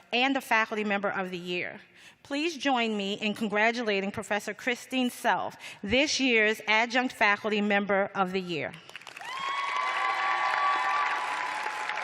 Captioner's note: cheers and applause